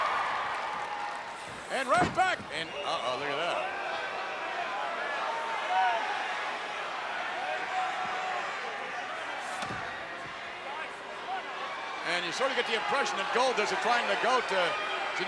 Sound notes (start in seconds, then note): 3.9 crowd yelling